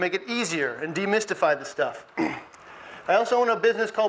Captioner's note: clears throat